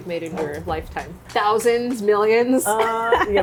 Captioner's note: laughs